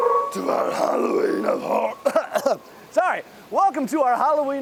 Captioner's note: frightening voice; coughing